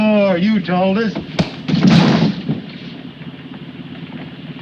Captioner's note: gun thuds